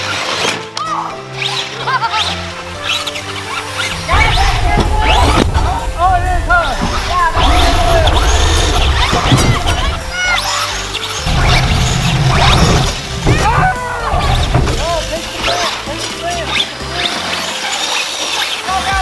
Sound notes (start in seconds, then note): 1.8 laughs; 2.8 upbeat music; 7.3 car whirs; 10.4 yells; 15.5 cars whirring